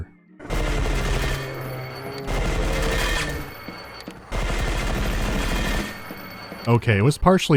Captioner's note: rapid fire in controlled bursts